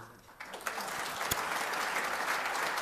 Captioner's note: applause